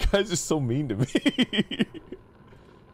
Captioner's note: laughs in pain